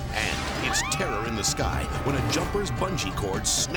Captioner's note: dramatic whoosh; people screaming